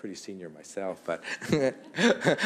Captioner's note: laughter